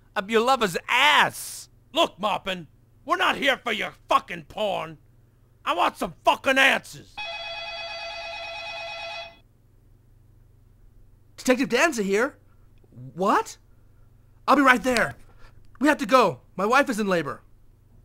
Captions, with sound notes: up your lover's ass. Look Mopin, We're not here for your fuckin' porn! I want some fuckin' answers! ( Cell phone ringing ) Detective Danza here. What? I'll be right there! We have to go! My wife is in labor!